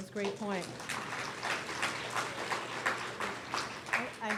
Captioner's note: audience claps